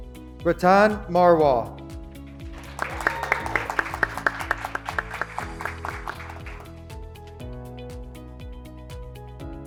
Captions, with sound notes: Bartan Marwal, (graduates clapping) (graduates cheering)